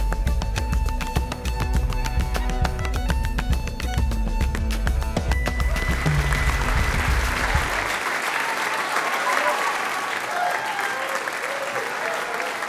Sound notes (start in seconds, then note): 1.0 playing cello; 3.3 dancing on a board with tap shoes to create percussion sounds